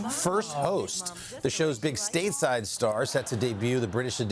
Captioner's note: laughter